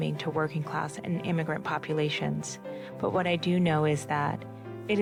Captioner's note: none